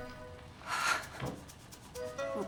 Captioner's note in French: soupirs